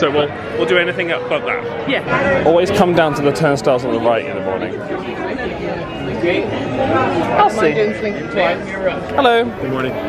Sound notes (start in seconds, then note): 5.7 guests chattering